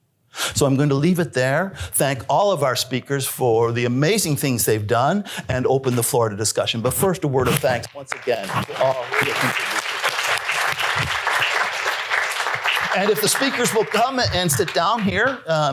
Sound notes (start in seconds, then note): 8.0 applause